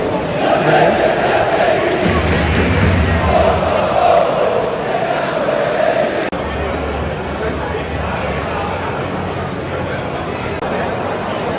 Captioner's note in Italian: Applauso